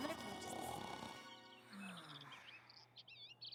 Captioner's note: snoring; birds chirping